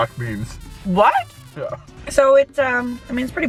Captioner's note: laughs